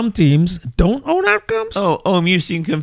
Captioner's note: uh